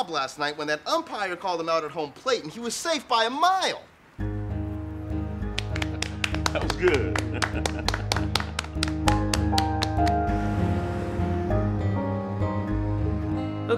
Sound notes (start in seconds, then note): 5.4 Gates and Travis clapping; 8.8 laughs; 9.5 Gates and Travis clapping